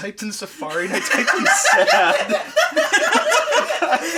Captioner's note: laughing